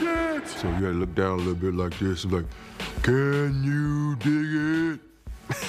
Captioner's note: deep voice